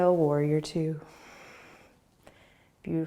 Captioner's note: exhaling